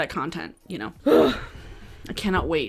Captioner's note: groaning